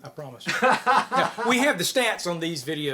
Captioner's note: chuckles